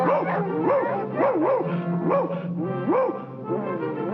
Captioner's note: Bugs Bunny barking